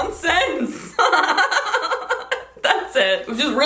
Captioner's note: laughs